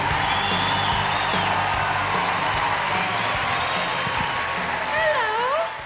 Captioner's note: audience cheering; upbeat music